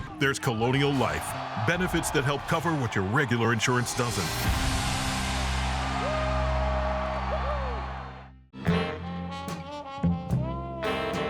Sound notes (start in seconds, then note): 4.8 cheering; 8.5 jazz music